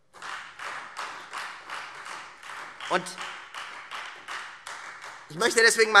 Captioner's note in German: Beifall Freie Demokraten und vereinzelt CDU